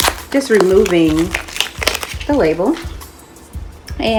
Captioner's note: card rustling